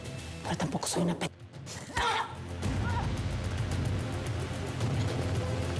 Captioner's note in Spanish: quejidos de briseida